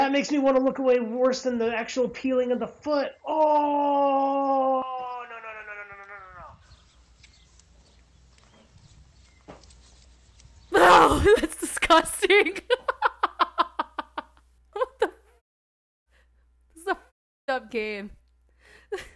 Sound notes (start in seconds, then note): 13.8 laughs